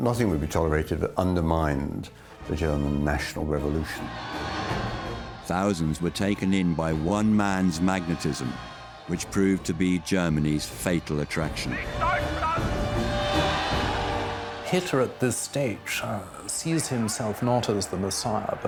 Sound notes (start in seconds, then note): 4.4 crowd cheering; 12.0 Hitler speaking in foreign language; 13.6 crowd cheering